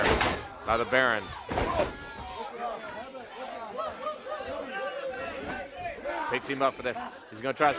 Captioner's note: crowd chatter